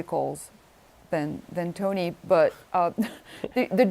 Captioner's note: chuckles